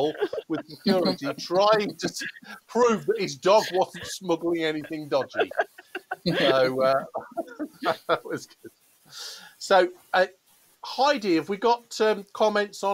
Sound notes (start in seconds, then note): 5.6 laughter